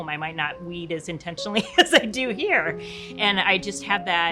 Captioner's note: chuckles